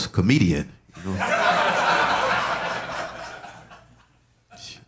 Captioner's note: audience laughing